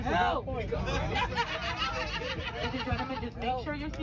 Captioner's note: passengers laughing